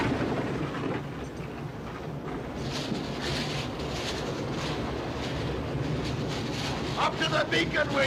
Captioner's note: wind howling